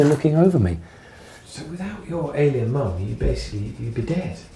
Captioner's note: voiceover